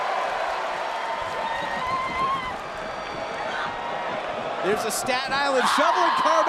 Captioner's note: cheers and applause